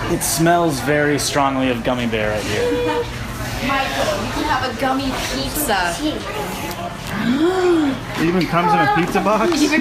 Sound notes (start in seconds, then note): 7.1 gasping